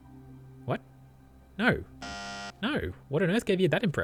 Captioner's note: bzzt